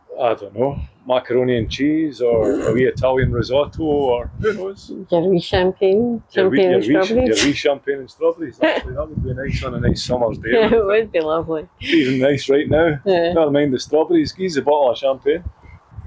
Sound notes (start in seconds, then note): 2.4 laughing Snort; 8.2 laughter